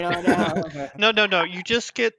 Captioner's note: laughs